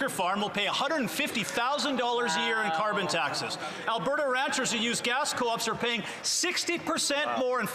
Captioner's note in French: voix de l'interprète